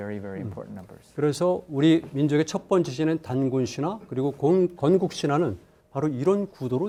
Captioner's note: speaking in Korean